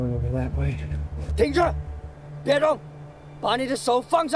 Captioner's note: Mandarin